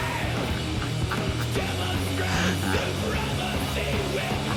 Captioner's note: evil Laughter; evil Laughter Continues